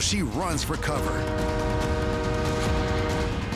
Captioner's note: train horn blaring